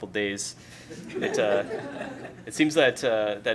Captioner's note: laughter